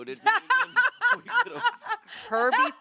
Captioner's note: laughs